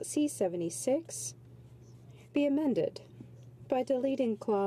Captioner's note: speaking French